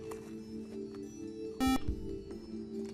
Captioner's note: buzzer